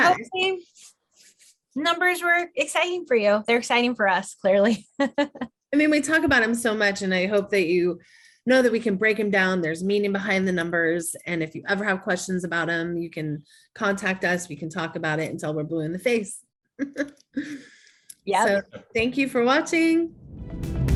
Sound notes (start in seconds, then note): 4.7 laughing; 16.8 laughing